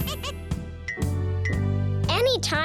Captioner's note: laughing